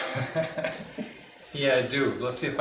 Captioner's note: laughing